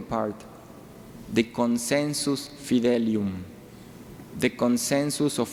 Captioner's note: speaking in foreign language